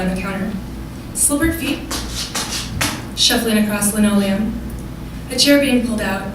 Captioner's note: shuffling sound